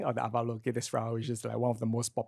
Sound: speaks foreign language

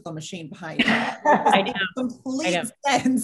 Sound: panel laughs

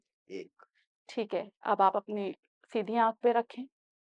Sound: in Urdu

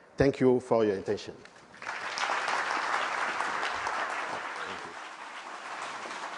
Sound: applause

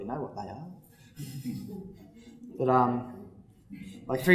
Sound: laughter

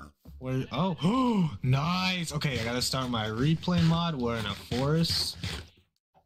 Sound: gasp

